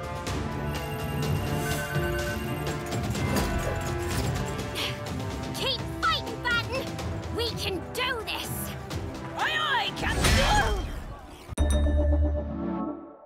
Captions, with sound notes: [beeping] [sighs] Keep fightin', Batten! We can do this! Aye aye, Capt-- oh!